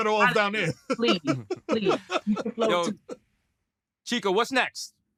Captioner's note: laughs